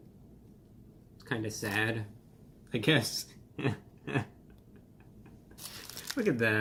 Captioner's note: laughs